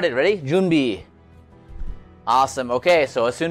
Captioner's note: foreign language